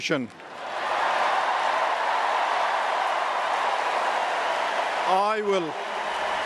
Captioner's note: cheers, applause